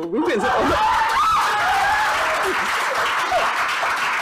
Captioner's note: people cheering